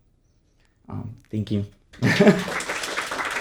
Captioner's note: audience applauding; chuckles